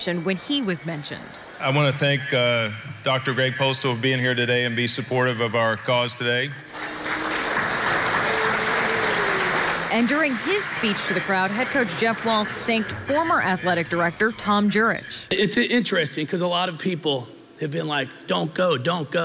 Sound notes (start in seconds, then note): 13.1 applause